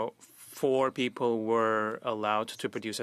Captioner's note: speaking French